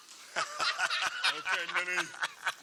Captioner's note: laughs